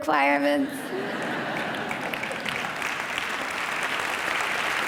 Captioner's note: audience applause